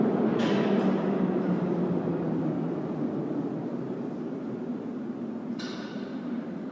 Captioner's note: train slows down in a dead end